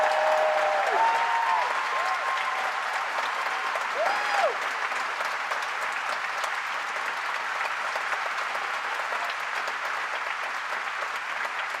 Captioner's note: applause